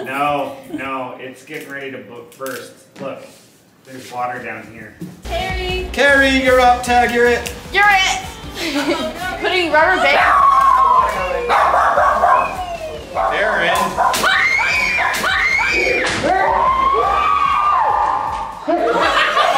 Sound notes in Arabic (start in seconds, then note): 14.1 الكل يصرخ